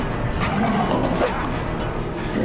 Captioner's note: wooshing